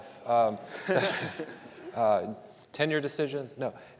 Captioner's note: panelists laughing; audience laughing